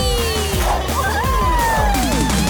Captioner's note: cheering